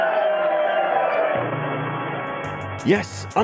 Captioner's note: audience Applause